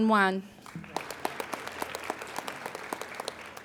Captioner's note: applauding